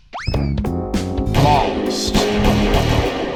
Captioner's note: blaster is hit--gunshot; repeated gunshots